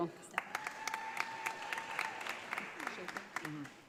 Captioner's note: audience applauding